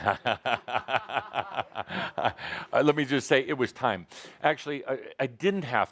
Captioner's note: laughing